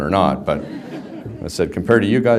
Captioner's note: background laughter